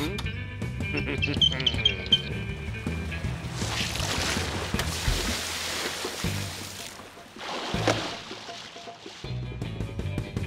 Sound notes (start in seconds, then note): 0.9 grunts and giggles